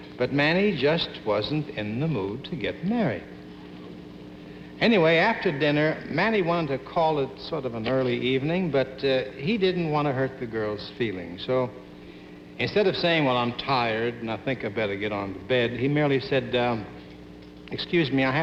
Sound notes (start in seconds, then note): none